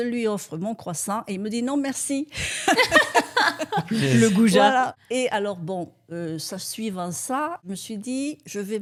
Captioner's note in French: rires